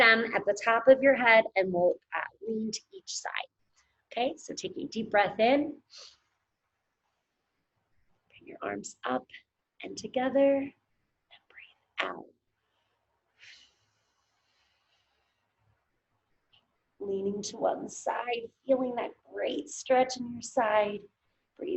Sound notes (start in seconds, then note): 6.2 inhales heavily; 13.6 exhales heavily